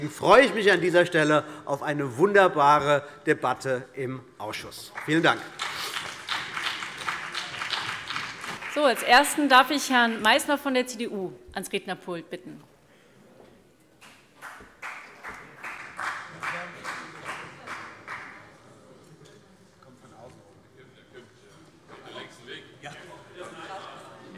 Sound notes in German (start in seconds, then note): 4.8 Beifall CDU und BÜNDNIS 90/DIE GRÜNEN